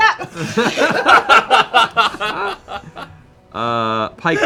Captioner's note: laughter